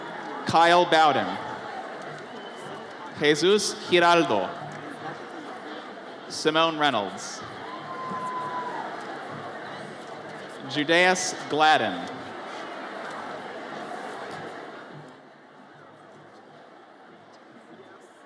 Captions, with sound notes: Kyle Bowden. Jesus Hiraldo. Simone Reynolds. (audience cheers) Judeas Gladden. (audience chattering)